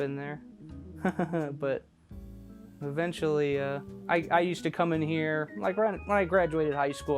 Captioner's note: laughs